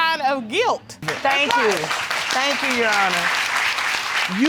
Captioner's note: audience clapping